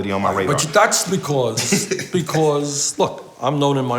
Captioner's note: laughs